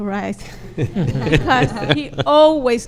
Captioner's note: laughs